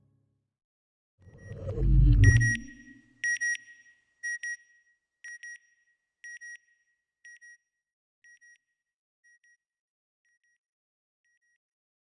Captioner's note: satellite beeping